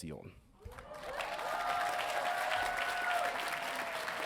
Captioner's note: audience cheering